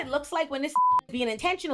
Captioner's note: beep